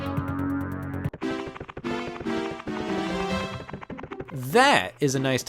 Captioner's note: light hearted music; feet pattering